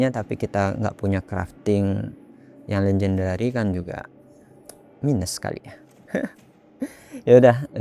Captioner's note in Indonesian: tertawa